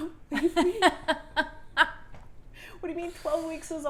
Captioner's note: laughs